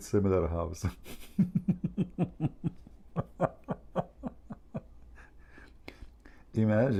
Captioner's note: Ketawa